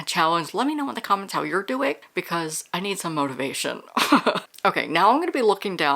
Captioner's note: laughs